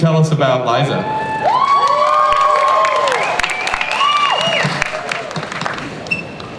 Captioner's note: cheering